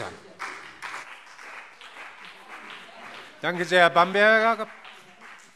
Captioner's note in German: Beifall CDU und BÜNDNIS 90/DIE GRÜNEN